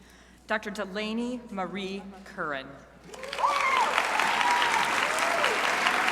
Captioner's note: crowd applauding